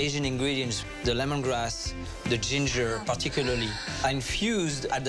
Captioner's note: gasps